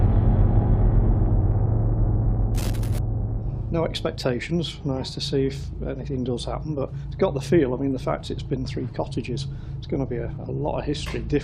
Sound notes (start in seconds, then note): 2.5 static zapping